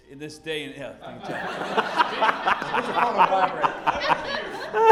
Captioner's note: laughter